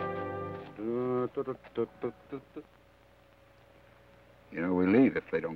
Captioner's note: Joshua hums melodically